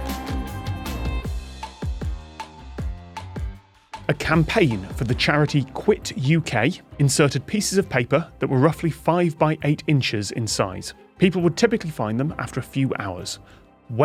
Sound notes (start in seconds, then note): none